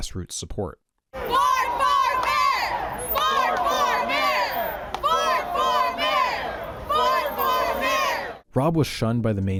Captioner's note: chanting